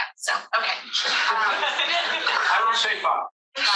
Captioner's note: all laughing